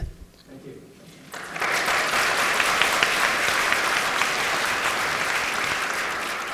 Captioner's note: applause